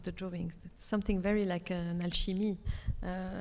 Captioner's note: speaks Arabic